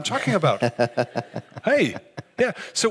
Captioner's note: laughing